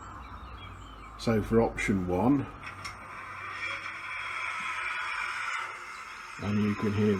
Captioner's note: train engine roaring